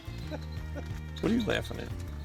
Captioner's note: laughter